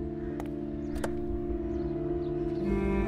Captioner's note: Car door opening